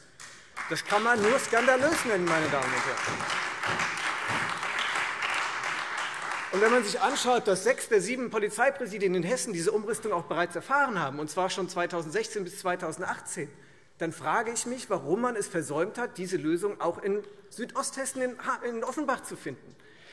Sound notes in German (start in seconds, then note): 4.2 Beifall Freie Demokraten und SPD